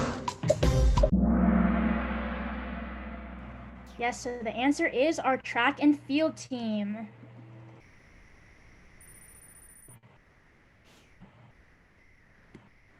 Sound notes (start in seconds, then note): 1.1 gong